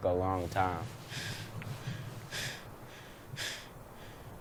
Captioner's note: panting